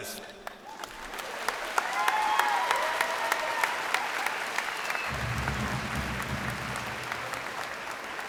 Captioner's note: cheers and applause